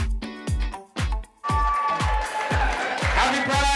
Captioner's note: applause and screaming